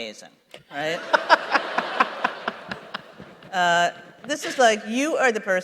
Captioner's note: laughter